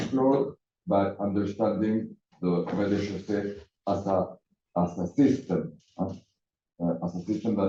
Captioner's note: non-english